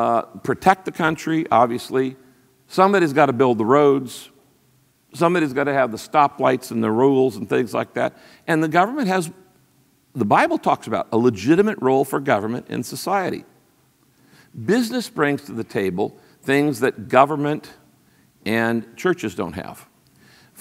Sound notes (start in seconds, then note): none